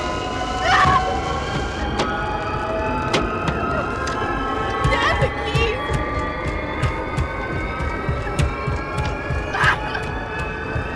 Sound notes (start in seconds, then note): 0.6 Liz screams; 5.3 thuds on window